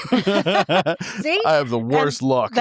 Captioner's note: laughing